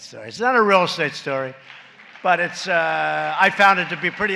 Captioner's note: applause